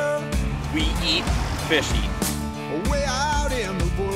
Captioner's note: voiceover